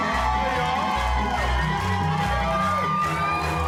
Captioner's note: cheering; clapping